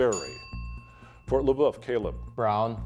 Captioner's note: bell dinging